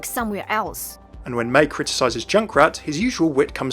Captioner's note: voiceover